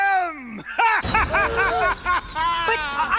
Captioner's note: wicked laughing